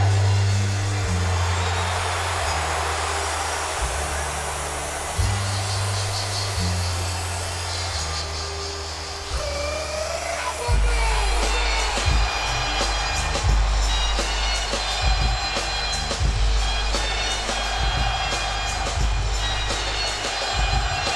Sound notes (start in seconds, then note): 0.1 crowd cheering continues; 0.1 upbeat music; 16.1 crowd cheering continues